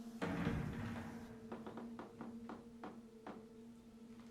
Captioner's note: tense music; door clattering